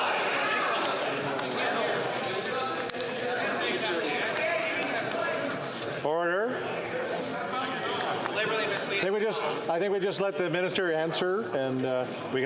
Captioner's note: yelling